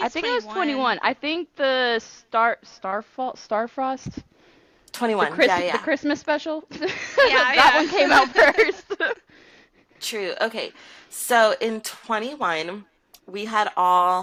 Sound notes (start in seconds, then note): 6.7 laughter